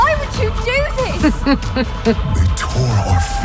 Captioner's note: snickers